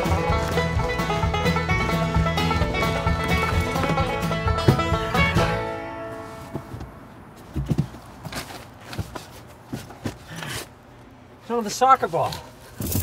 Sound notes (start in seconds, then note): 0.0 country music resumes; 7.2 rustling